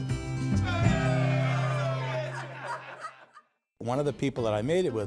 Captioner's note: people cheering